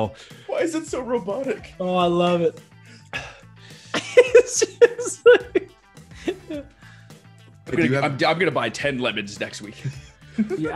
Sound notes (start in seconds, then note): 3.8 laugh